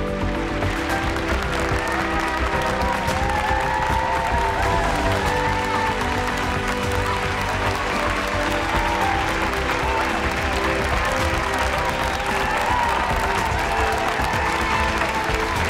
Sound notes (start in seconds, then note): 0.1 audience clapping; 3.9 Leyla cheering